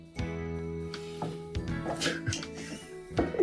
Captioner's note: footsteps tapping; Skipper laughing